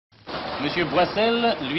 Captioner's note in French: Applaudissements